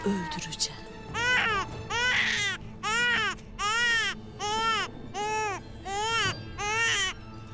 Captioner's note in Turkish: Osman ağlama sesi